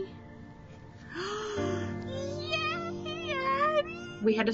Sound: gasps

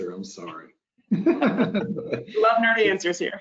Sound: laughs

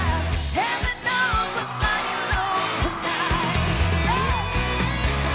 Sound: audience cheering

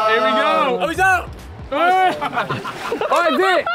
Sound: Sidemen laughing

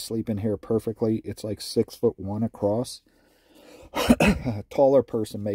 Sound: coughs

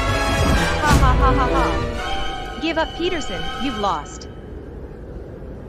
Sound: laughs maliciously

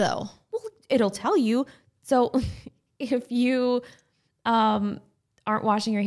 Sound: laughing

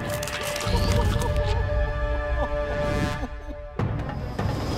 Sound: crying

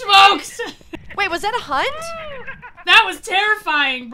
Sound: laugh

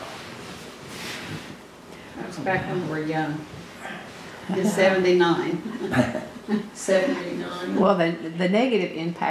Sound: laughter

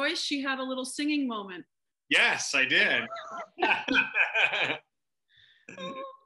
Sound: laughter

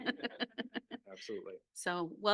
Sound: laughing

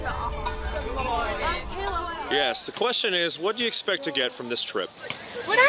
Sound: indistinct chatter

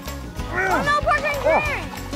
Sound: grunting

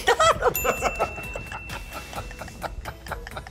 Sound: laughter

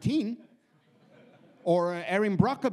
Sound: audience laughs

